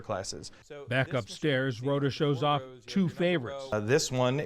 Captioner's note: voice-over